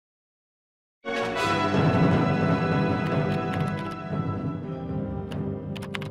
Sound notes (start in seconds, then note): 0.0 typing on a keyboard; 1.0 intense music